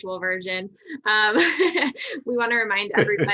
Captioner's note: laughter